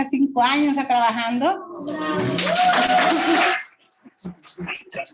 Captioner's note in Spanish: aplausos